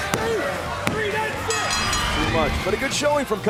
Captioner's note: bell ringing